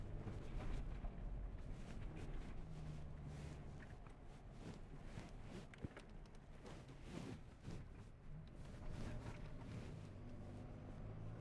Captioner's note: wind